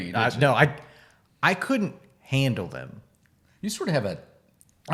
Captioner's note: none